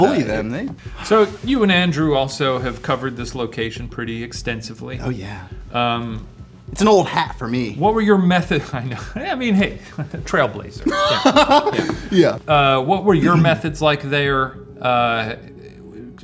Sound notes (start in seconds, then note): 9.6 laughs